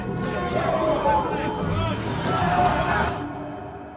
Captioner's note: people shouting